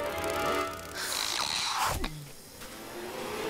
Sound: thwuuppppp

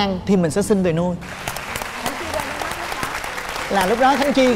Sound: applause

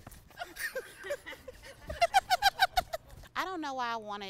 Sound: laughing

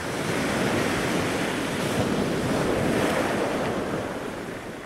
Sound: waves breaking

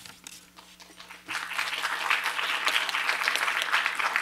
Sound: applause

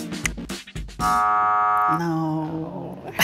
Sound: upbeat music; buzzer buzzes; chuckles

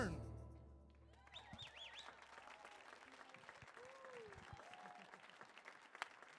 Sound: audience applauds, cheers

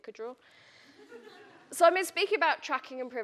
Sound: audience laughing

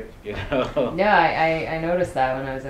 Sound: laughs

